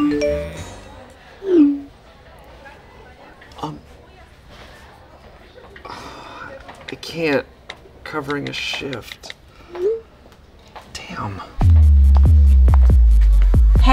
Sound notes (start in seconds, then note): 0.0 phone chimes; 1.5 phone feeps; 11.6 soft upbeat music